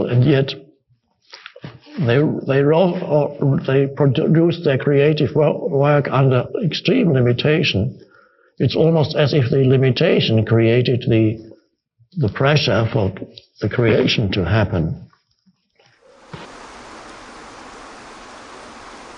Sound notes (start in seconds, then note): 15.9 water flowing